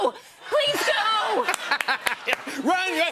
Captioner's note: laughter and applause